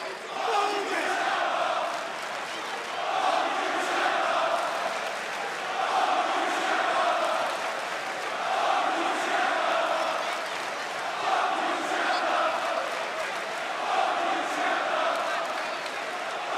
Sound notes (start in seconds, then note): 4.6 crowd cheering